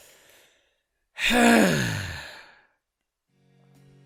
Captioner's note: massive sigh of relief